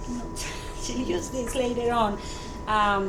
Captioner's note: laughs